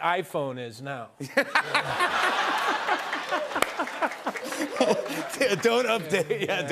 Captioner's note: laughter